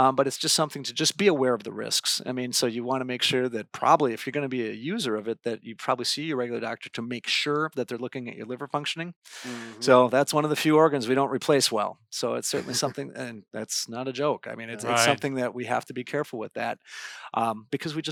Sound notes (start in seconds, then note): 12.5 laughing